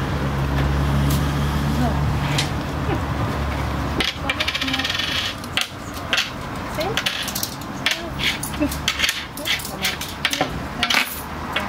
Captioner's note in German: Geräusch von Münzen